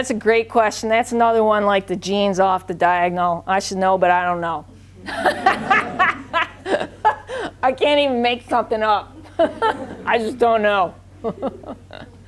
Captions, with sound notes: - That's a great question. That's another one like the genes off the diagonal. I should know but I don't know. (all laughing) I can't even make something up. I just don't know.